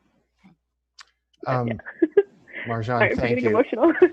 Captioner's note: chuckles